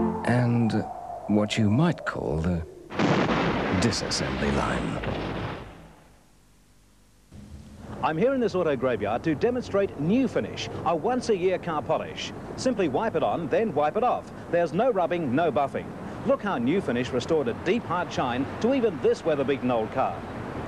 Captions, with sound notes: ...and what you might call the... [Crash] ...disassembly line. I'm here in this auto graveyard to demonstrate Nu Finish, a once-a-year car polish. Simply wipe it on, then wipe it off. There's no rubbing, no buffing. Look how Nu Finish restored a deep, hard shine to even this weather beaten old car.